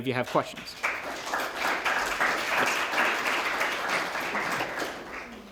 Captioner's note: applause